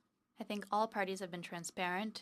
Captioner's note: speaking French